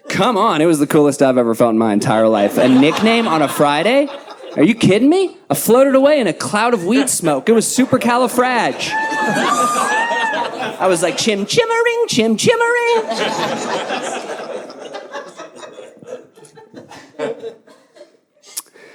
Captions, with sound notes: Come on, it was the coolest I've ever felt in my entire life. A nickname on a Friday? Are you kidding me? A floated away in a cloud of weed smoke. It was super califrag. (audience laughing) I was like, "Chim-chim-ering, chim-chim-ering!" (audience laughing)